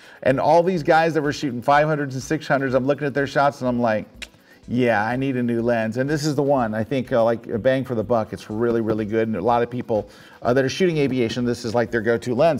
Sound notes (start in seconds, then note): 4.2 clicks tongue